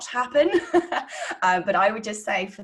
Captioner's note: laughing